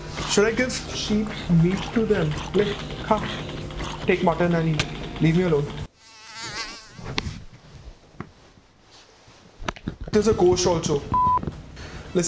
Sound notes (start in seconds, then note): 5.8 fly buzzing